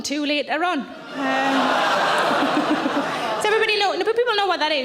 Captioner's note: audience laughing